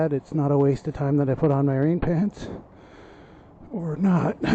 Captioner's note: coughs